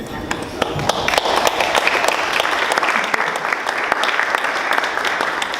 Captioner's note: audience applauding